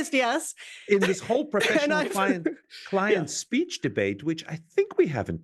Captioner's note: laugh